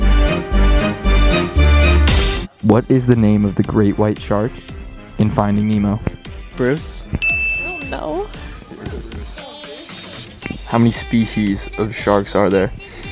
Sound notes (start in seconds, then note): 0.0 dramatic music; 7.2 bell dings